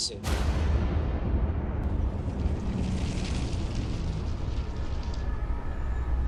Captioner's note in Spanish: Ruido del vehículo